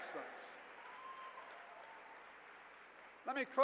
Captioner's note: applause